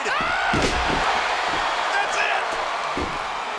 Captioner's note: King screams